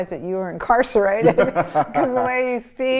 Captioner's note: laughs